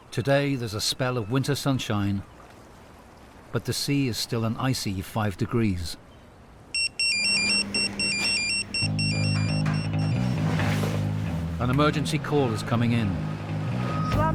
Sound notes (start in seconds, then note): 6.7 phone chiming